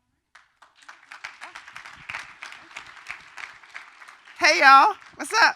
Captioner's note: applause